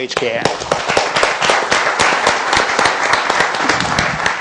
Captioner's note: applause